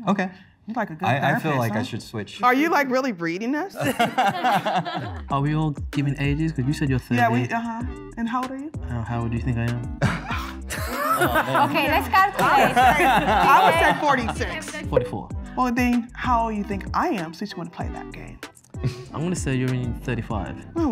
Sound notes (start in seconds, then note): 12.7 laughing